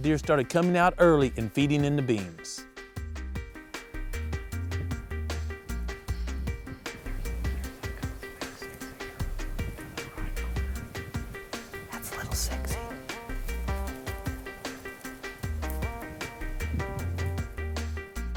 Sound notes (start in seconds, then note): 7.3 whispering